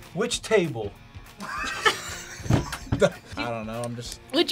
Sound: both laugh

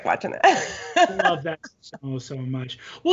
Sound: laughs

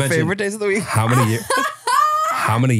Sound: laughs

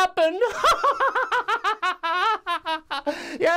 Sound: laughs

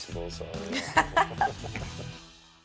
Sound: both laugh

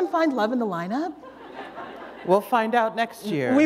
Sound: laughter

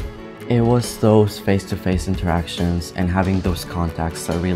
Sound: voiceover

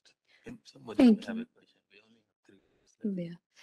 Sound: faintly speaking

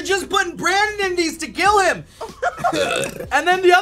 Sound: belching

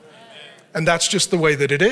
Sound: audience mumbles in agreement

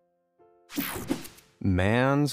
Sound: whooshing

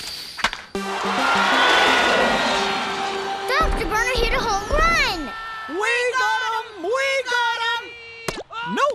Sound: cheering

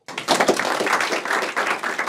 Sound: applause

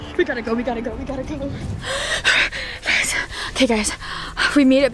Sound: heavy breathing

